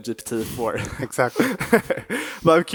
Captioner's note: chuckles